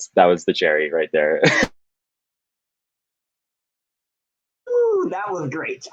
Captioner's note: laughing